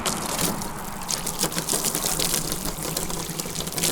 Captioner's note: water running; water splashing